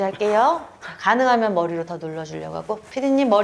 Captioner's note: straining